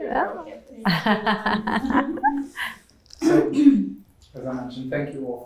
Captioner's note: laughs